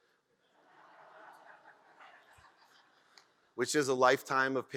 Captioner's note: audience laughs